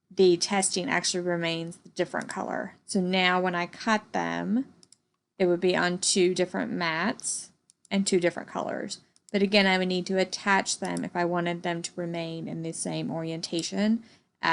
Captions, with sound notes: the TESTING actually remains the different color. So now when I cut them, (computer mouse clicking) it would be on two different mats, in two different colors, but again, I would need to attach them if I wanted them to remain in the same orientation,